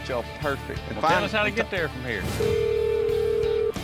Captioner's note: phone ringing